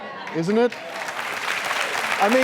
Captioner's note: audience applauding